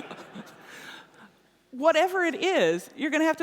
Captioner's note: laughter